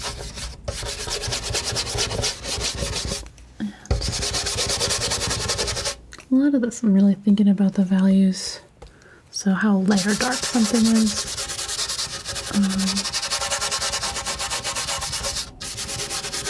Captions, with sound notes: [scratching] [scratching] A lot of this I'm really thinking about the values. So how light or dark something is. [scratching]